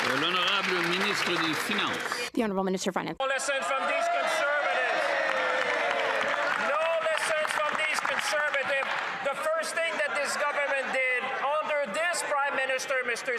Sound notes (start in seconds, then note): 4.2 some Applause; 5.1 speaking French